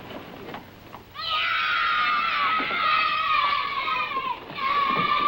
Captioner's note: kids cheering